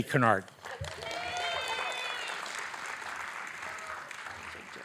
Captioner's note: audience applauding